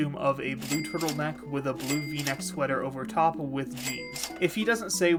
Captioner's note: cash register ringing